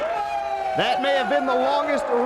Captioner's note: crowd cheering